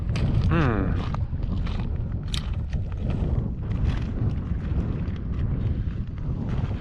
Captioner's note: footsteps thumping